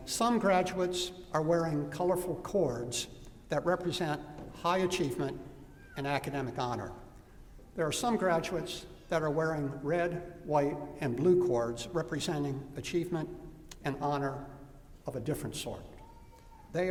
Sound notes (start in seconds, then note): none